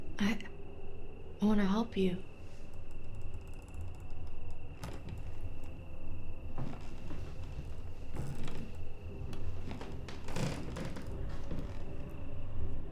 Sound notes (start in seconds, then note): 3.9 floorboards creaking; 3.9 suspenseful music